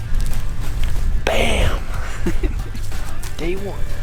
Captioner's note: man laughs